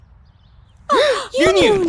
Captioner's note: gasps